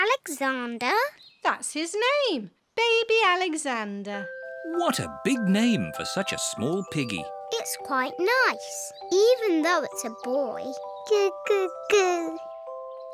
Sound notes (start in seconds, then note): none